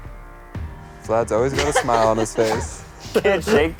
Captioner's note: laughing